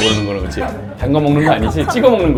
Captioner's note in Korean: 호흡 곤란